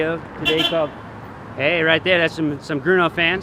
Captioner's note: horn sounds